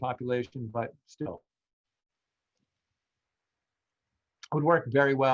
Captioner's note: distortion